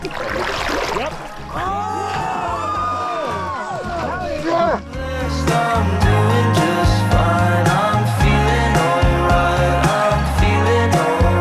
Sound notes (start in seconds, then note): 1.4 everyone cheers